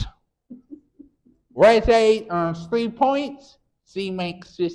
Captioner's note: chuckles